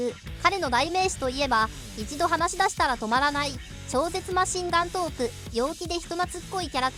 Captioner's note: incredible machine gun talk